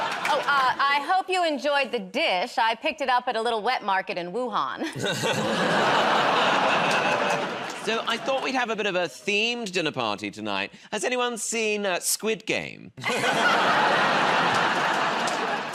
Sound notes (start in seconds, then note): 0.0 laughter; 5.1 audience groans; 13.0 laughter